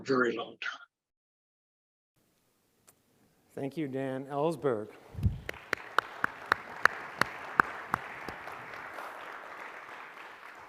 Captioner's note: applause